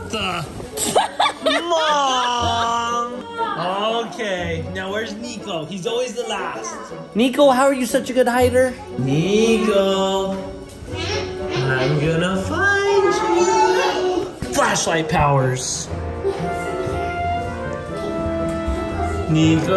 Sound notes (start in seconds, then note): 0.0 curtain thumping; 0.8 laughs